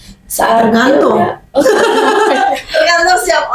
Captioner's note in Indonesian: tertawa